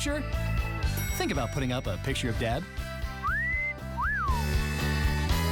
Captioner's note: whistles